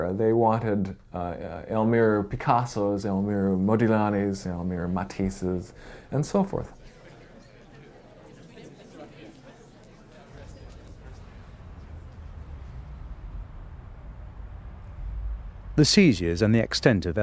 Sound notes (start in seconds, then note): 7.2 people chattering